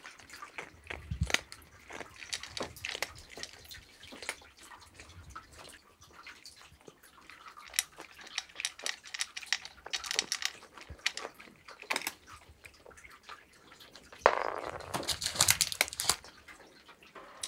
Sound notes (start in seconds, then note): 7.5 crunchy